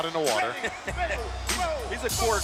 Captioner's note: laughing